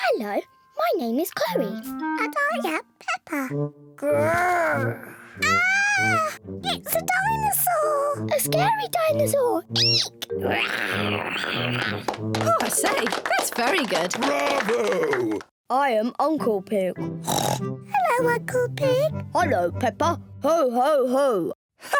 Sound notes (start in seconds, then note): 5.4 peppa screams; 10.5 george roars menacingly; 15.5 in deep voice; 17.2 oinks